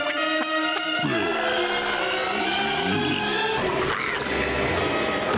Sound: groaning

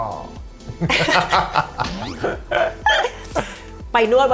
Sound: laughing; เสียงหัวเราะ

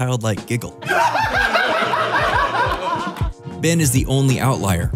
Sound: high-pitched laughter

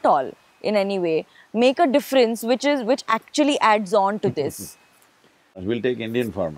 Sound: Sadhguru laughs

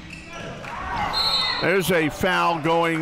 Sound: whistle blows

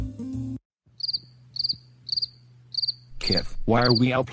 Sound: crickets chirping

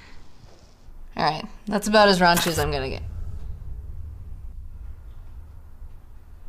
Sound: static noise

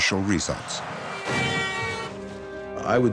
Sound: car honks

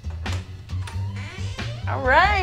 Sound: door opens

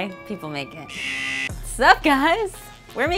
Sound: buzzer sounds

